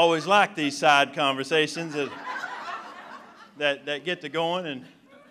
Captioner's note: laughter; laughter